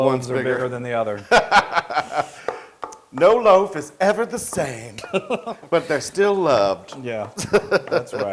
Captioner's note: laugh